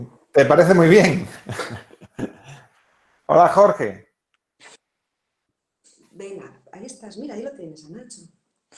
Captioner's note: risas